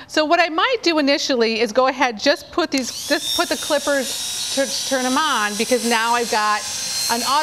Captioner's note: clippers buzzing